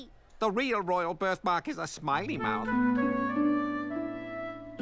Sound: none

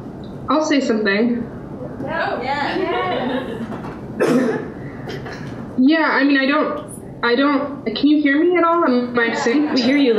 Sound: audience cheering

